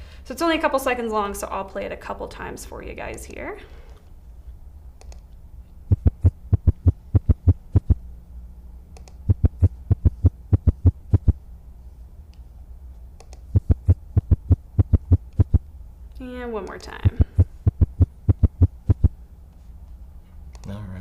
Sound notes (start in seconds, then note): 5.0 mouse clicks; 5.8 heart beating; 8.9 mouse clicks; 9.2 heart beating; 13.2 mouse clicks; 13.5 heart beating; 17.0 heart beating